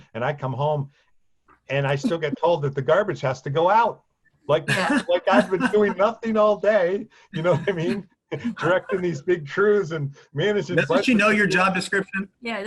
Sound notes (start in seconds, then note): 4.5 laughing